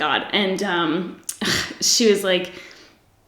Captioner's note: scoffs